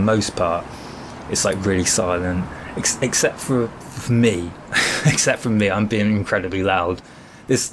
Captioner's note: chuckle